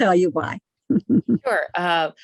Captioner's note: laughing